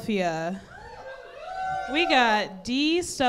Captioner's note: cheering from crowd